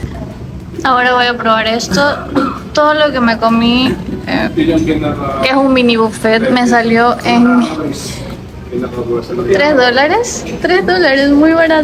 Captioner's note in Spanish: carraspeo